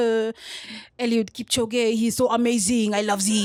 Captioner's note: french accent